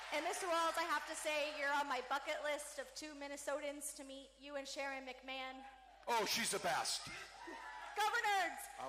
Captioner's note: cheering